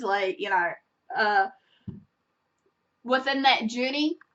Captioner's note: long pause